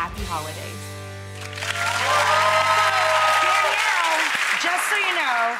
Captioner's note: audience applauds